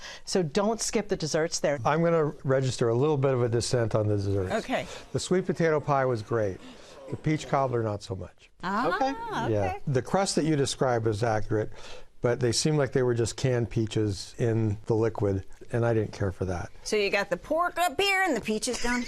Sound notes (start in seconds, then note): 6.6 gasps